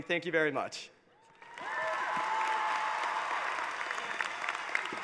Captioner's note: cheering